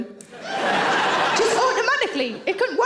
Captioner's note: audience laughing